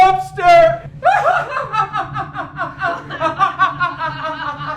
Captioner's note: Isaac laughs; Maude laughing